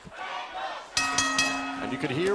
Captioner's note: bell ringing